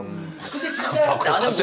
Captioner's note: chuckles